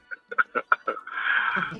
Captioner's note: laughter